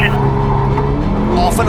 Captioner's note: car engine revving